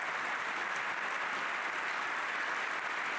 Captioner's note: cheers and applause